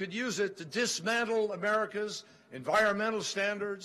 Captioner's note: none